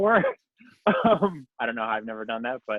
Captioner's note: laughs